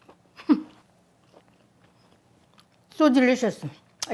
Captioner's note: chuckling